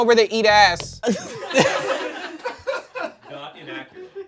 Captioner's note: everyone laughs